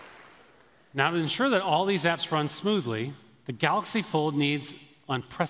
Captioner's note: applause